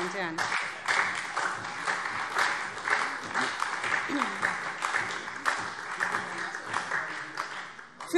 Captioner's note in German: Beifall SPD und Freie Demokraten